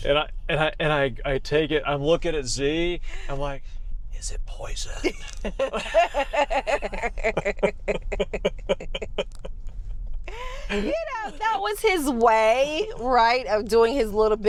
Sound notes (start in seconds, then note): 7.7 laughing